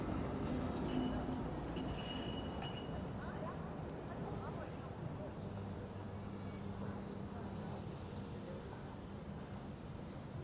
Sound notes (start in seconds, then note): 6.4 people chatting